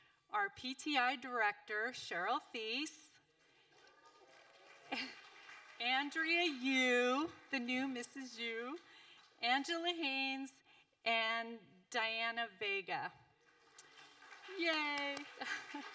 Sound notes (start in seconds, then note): 3.4 audience applauding; 13.4 audience applauding